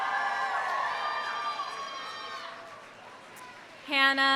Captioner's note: audience cheering; audience applauding